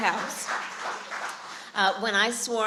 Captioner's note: applause